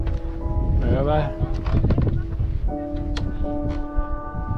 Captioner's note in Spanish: hablando holandés